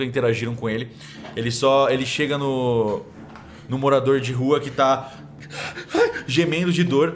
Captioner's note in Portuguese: ofegante